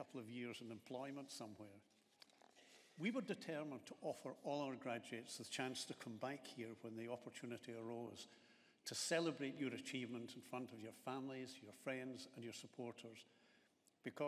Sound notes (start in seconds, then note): none